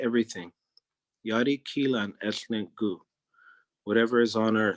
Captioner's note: speaking in Native Language